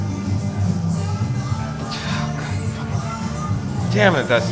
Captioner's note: sighs and mumbles